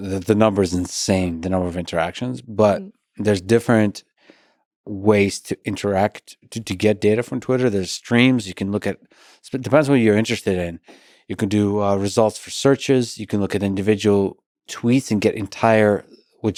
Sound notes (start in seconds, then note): none